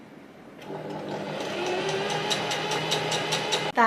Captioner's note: sewing machine surges